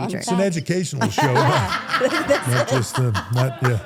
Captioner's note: everyone laughs